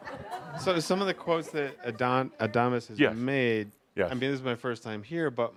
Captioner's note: laughter